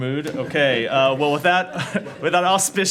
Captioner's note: laughter